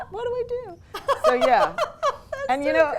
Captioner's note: laughs